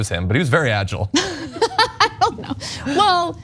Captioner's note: laugh